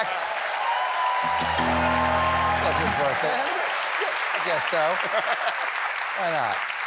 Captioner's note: applause